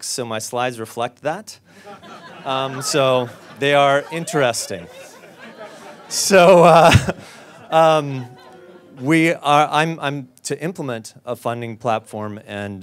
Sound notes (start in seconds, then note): 4.5 audience laughs; 6.5 laughs